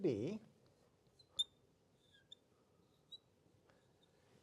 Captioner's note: marker squeaking